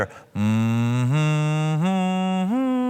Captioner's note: humming